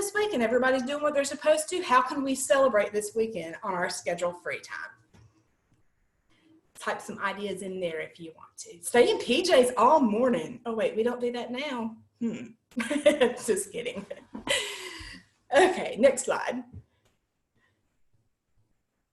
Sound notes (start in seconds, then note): 12.7 laughter